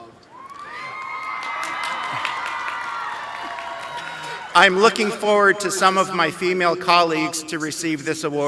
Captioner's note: cheering; applause